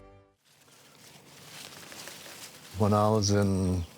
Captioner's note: gentle music; leave rustling